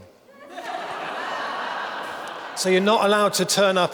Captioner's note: audience laughing